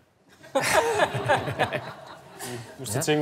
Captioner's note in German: Lachen